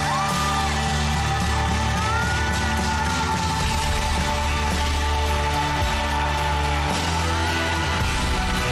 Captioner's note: applauding, cheering